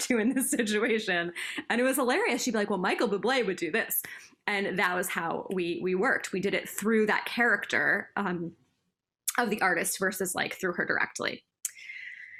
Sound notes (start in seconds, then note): 1.4 laughter